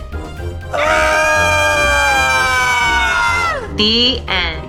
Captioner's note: yells